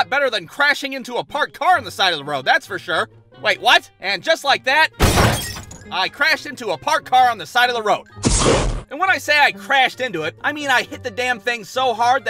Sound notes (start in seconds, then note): 5.0 thud, glass breaks; 8.2 poof!